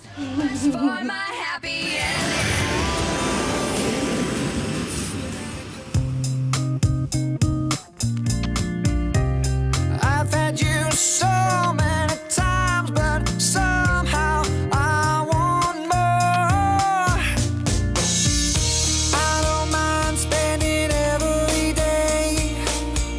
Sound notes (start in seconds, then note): 1.9 plane engine roaring; 6.1 upbeat music